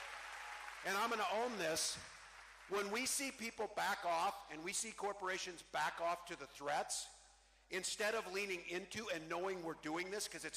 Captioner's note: cheering